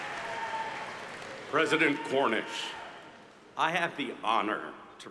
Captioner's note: applause